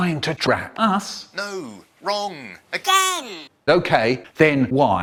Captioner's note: over phone, offscreen